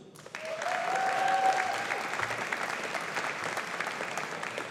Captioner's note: audience applauding